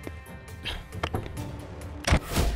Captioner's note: Door opens; Door closes